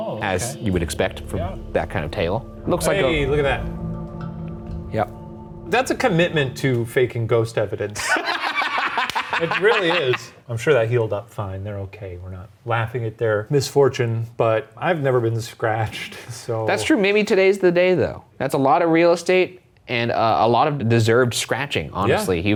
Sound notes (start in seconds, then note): 7.9 laughing